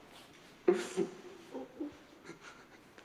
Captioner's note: steve sobbing